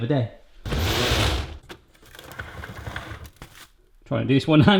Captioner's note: cupboard whirring